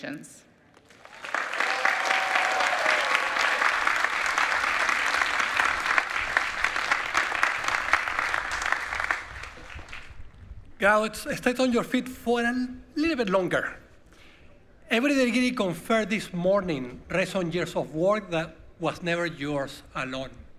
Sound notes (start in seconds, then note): 8.0 applause